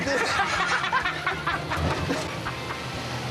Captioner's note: laughing